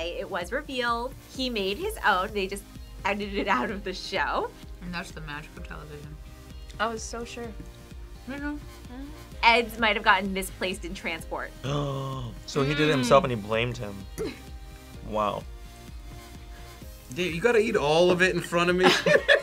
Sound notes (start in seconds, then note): 11.9 gasps; 18.7 group laughs